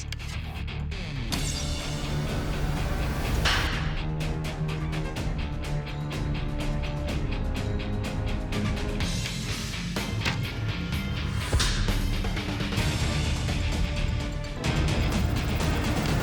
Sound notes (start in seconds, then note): 0.2 dramatic music swells; 3.1 arrow strikes; 5.7 rock music; 10.8 arrow strikes